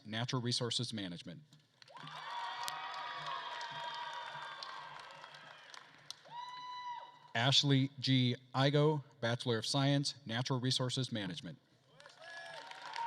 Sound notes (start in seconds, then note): 1.8 attendees cheering and applauding